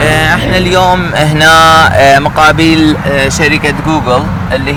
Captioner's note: speaking Arabic